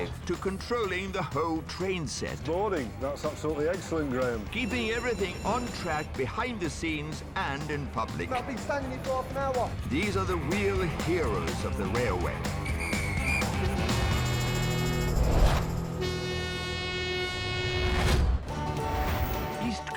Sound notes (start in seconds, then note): 12.4 whistle blows; 12.8 upbeat rock music; 14.8 train whooshing; 15.6 horn blaring; 18.5 bright music